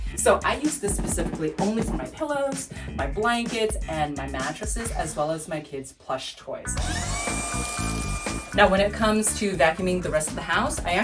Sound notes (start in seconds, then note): 6.7 upbeat music; 6.8 vacuum running